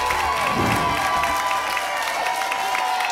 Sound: whoosh; applause and cheering cont

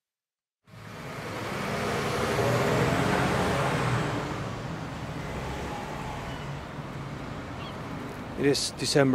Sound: traffic, seagulls

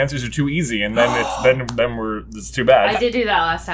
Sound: gasp

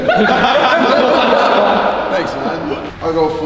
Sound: group laughs

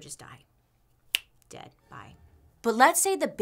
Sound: snaps fingers

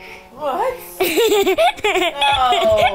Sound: laughs

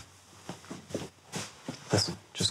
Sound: footsteps tapping

